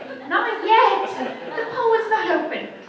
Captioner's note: audience chuckles